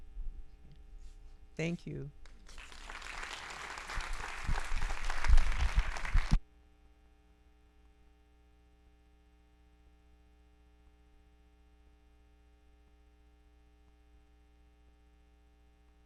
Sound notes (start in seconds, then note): 2.4 audience applauding; 6.7 audio silence